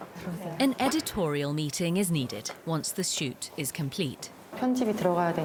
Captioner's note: voiceover